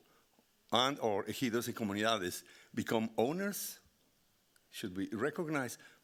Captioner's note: speaking Spanish